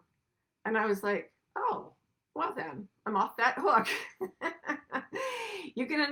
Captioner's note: laughs